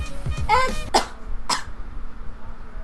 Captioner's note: coughs